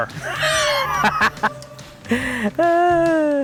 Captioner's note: laughs